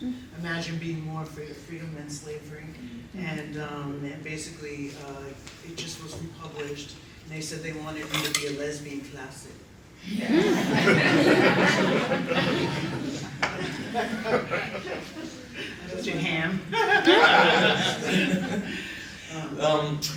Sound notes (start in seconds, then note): 10.2 laughter